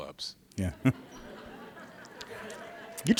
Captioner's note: laughter